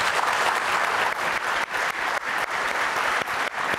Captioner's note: applause